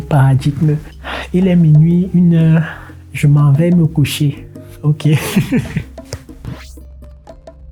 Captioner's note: laughter